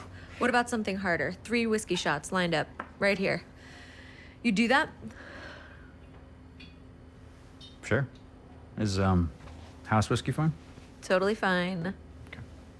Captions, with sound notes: What about something harder? Three whiskey shots lined up right here. You'd do that? [sighs] Sure. Is, um, house whiskey fine? -Totally fine. -Okay.